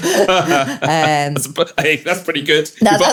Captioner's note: laughing